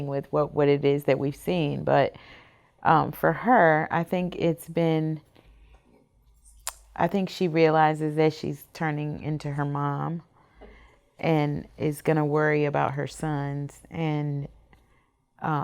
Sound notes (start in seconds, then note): none